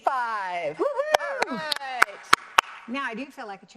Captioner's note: both clapping